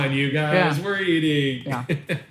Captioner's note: laughs